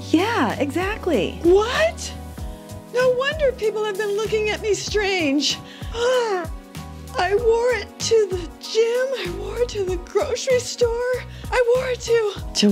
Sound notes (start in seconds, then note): 5.6 gasps